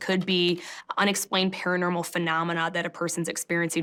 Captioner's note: none